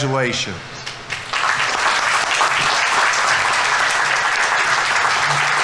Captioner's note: audience applauding